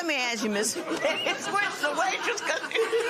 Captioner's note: laughter